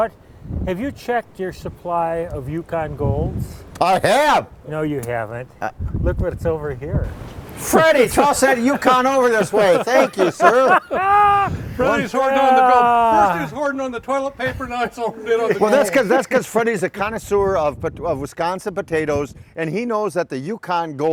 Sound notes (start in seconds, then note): 11.1 laughing